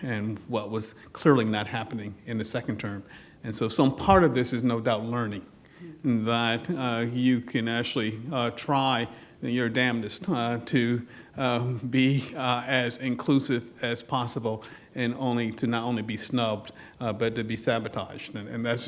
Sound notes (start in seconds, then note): none